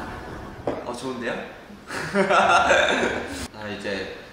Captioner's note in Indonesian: ha ha ha